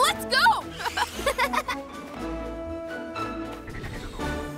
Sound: Kai and Codi laugh

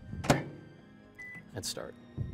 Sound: beep

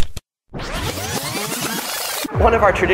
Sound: tape skips

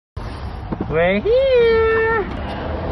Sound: wind blowing; cars driving past

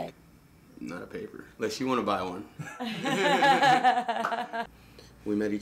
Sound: laughs

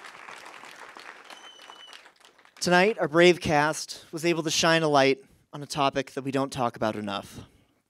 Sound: applause

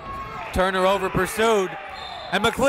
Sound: whistle

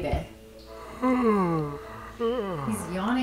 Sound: George yawns

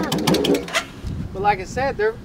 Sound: engine stops

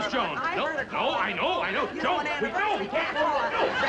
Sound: arguing

